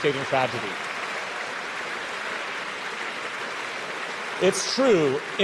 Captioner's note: audience cheers and applauds